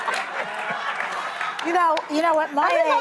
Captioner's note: audience laughing